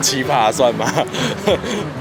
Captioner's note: inhale